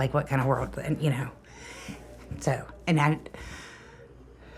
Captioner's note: sighs